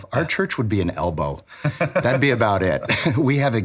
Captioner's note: laughing